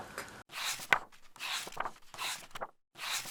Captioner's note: pages turning